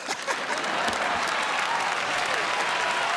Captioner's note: laughs; cheers and applause